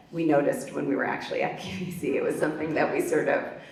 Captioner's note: laughs